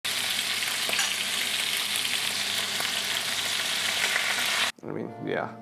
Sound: sizzling sound

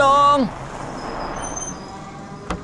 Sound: car stops

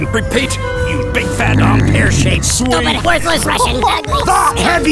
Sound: neck cracks

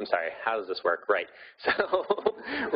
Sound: laughing

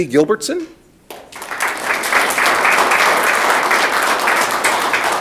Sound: audience clapping

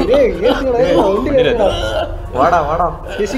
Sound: coughs with pain

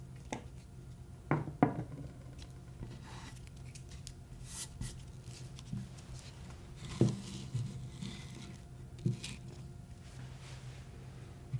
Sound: sounds of arranging apple slices

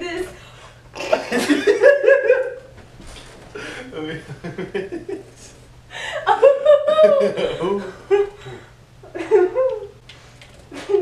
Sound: laughing

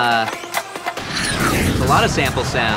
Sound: jet plane

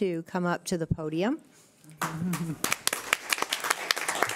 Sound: clapping

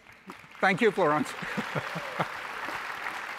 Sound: audience applauding; laughs

